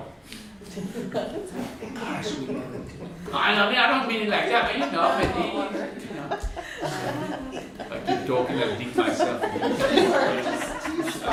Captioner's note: laughter